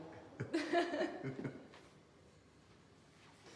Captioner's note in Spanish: riendo